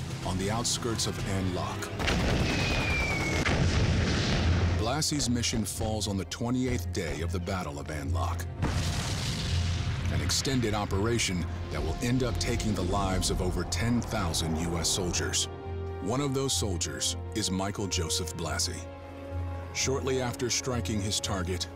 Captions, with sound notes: on the outskirts of An Loc. (machine gun fire) (bombs exploding) Blassie's mission falls on the 28th day of the Battle of An Loc, an extended operation that will end up taking the lives of over 10,000 U.S. soldiers. One of those soldiers is Michael Joseph Blassie. Shortly after striking his target,